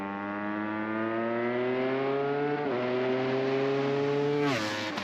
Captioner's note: engine revving